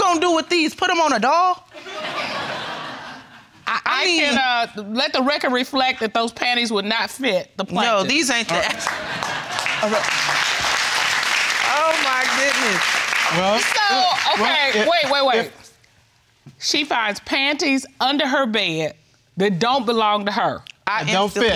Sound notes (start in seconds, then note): 1.8 audience laughing; 10.2 audience applauding